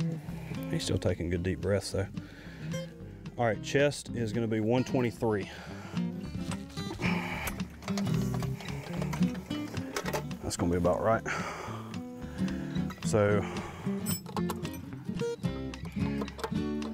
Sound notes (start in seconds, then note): 4.8 upbeat guitar music; 6.3 metal rattling; 10.5 upbeat guitar music